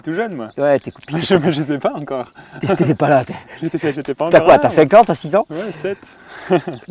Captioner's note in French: rires